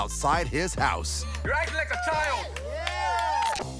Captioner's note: cheering